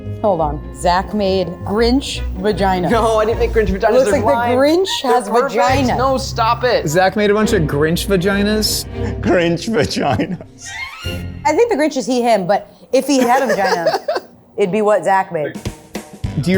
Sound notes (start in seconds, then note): 9.0 laughing